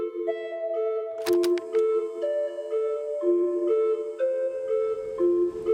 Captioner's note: suspenseful music; reel clicking